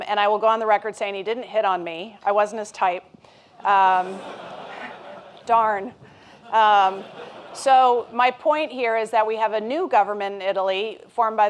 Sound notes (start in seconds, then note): 3.9 laughter